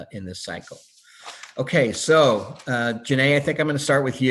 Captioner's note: paper rustling